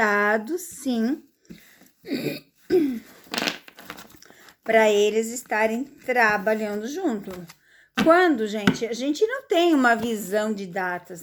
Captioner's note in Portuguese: limpando a garganta